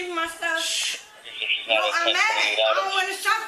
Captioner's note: radio chatter